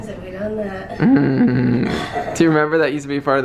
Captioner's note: chuckles